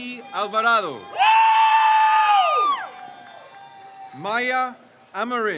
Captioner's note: crowd cheers